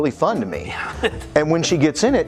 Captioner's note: laughs